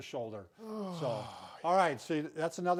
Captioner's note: exhales deeply